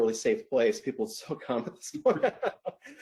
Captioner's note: laughs